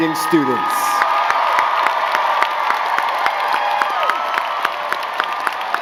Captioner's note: crowd cheering and clapping